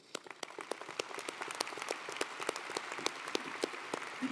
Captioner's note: audience applauding